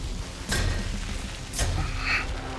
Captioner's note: grunting